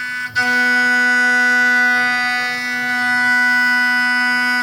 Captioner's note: machine buzzing